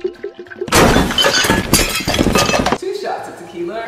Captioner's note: dishes crashing